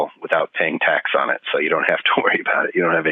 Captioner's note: laughing